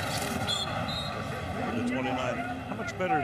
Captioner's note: whistle blows